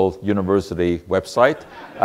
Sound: audience laughter

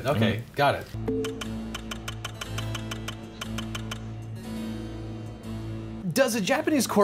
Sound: tense pensive music; text clicking

